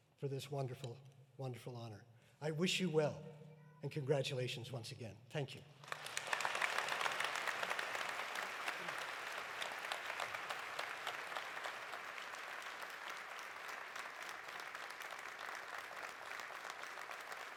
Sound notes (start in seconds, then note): 6.2 audience applauding; 13.6 applause continues